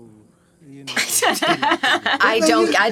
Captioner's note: laughing